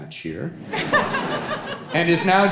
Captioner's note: everybody laughing